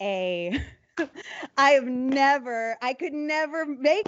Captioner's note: laughing